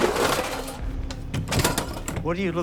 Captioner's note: door opens